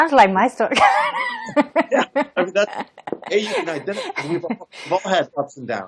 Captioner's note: laughs